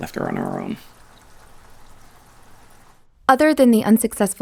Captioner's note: rain pattering